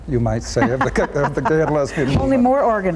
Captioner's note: laughs